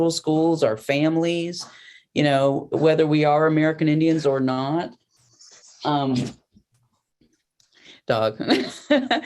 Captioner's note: laughter